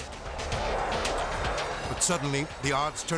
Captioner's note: jet soaring